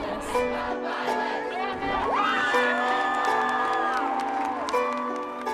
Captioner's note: all chant and shout